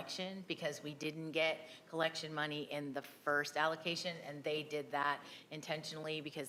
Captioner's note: none